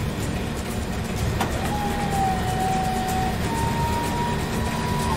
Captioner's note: sound of overhead grabber turning base shell